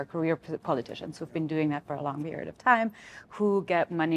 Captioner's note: none